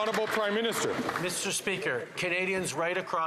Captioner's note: some Applause